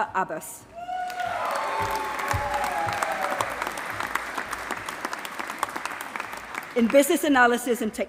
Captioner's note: applause